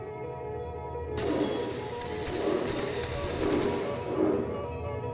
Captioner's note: glass shattering